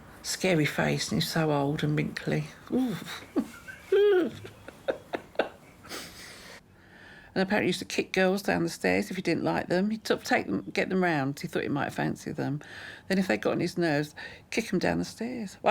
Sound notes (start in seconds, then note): 2.6 shivering; 2.6 laughing